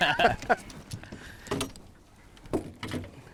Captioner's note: both laughing